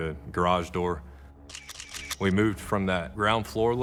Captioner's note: camera shutter clicking